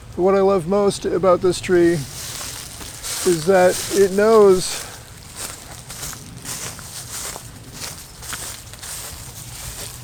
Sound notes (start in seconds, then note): 5.4 leaves rustling underfoot